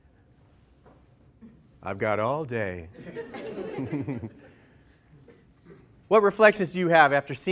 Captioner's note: laughter